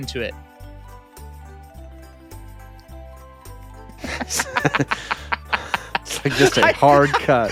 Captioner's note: laughing